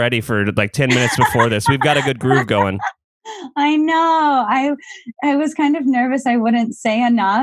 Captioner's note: laughs